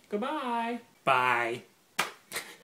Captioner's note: laughs